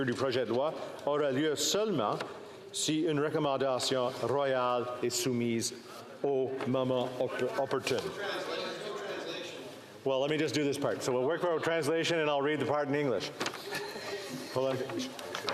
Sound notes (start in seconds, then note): 1.8 speaking French